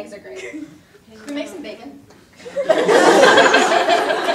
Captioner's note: audience laughter